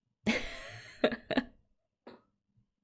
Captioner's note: laughs